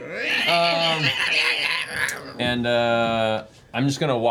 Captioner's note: cat yowling